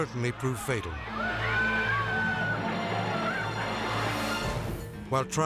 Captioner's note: bystanders screaming